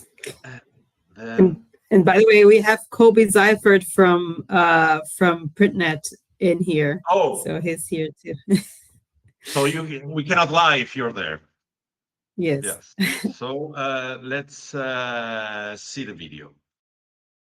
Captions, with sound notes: Uh- And by the way, we have Coby Seiffert from, uh, from PrintNet in here. Oh. So he's here too. (laughs) So you can, we cannot lie if you're there. Yes. Yes. (laughs) So, uh, let's, uh, see the video.